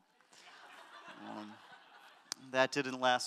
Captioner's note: audience laughter